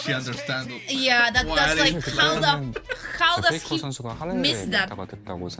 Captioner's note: laughs in proud BF